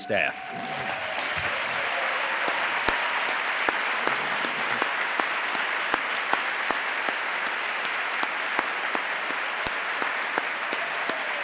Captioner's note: applause